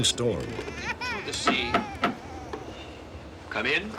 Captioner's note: knocking